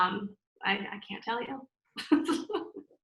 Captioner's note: laughs